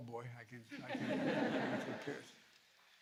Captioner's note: laughter